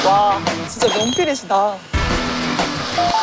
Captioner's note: jingle-jangle